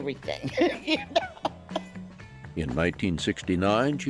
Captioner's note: laughs